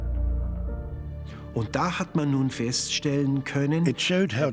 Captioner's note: speaking German